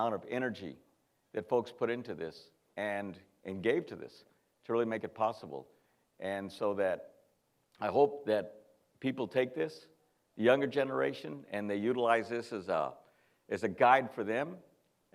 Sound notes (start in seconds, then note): none